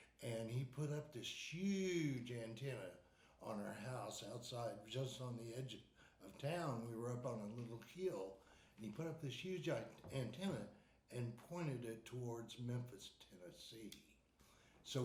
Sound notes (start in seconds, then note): none